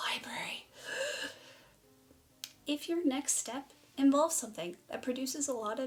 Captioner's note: genuine gasp of terror